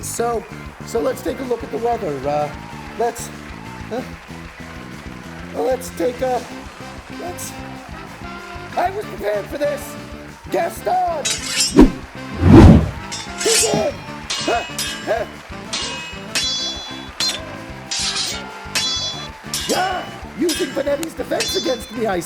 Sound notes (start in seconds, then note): 13.1 swords clashing; 14.3 grunting